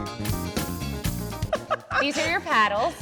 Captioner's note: laughing